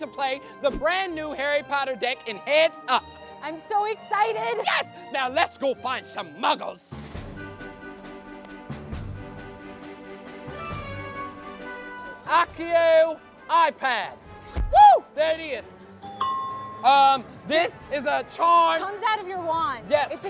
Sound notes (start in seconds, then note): 16.0 ding